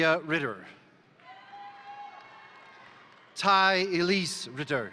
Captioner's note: crowd cheering; crowd applauding